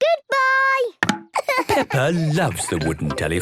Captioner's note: laughing